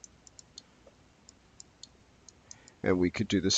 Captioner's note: mouse clicking